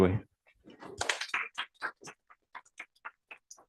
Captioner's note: applause